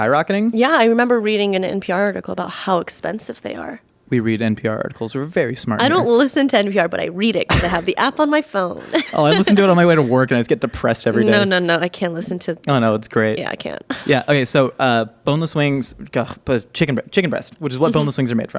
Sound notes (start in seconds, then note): 8.8 laughing